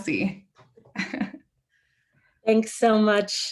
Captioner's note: chuckles